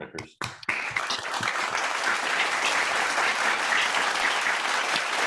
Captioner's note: audience clapping